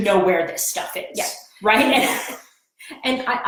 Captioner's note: laughs